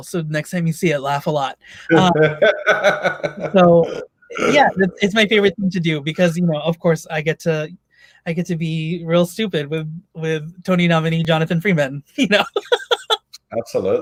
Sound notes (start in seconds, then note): 1.8 laughs; 12.4 laughs